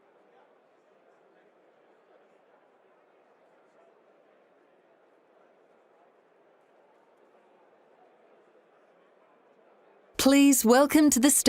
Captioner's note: silence